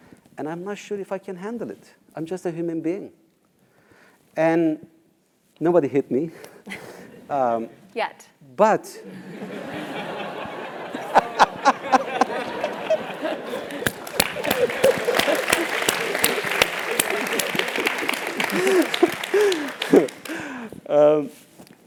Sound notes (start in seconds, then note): 9.7 laugh; 10.5 applause; 12.1 laugh